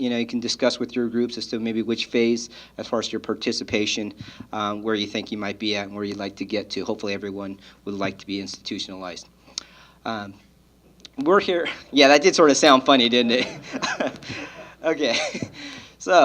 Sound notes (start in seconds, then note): 13.1 laughs